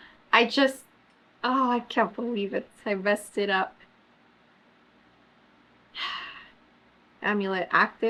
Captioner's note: sighs